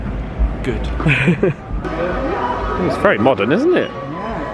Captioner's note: laughing